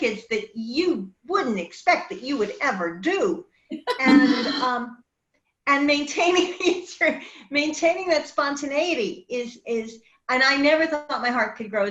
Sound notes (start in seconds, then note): 3.8 laughs; 3.8 woman laughs